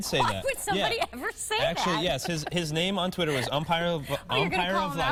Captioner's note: laughter